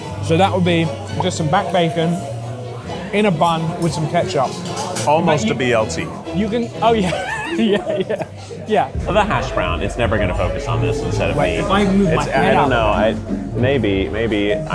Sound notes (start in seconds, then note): 6.9 laughs